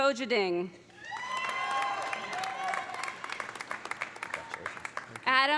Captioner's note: audience cheering; audience applauding